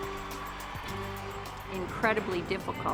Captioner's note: cheers and applause